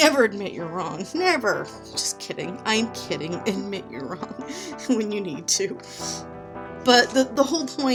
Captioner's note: laughing